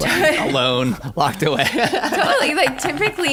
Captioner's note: laughter